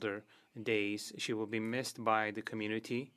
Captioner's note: speaking French